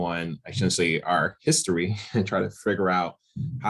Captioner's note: chuckles